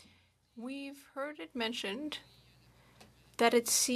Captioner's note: speaking French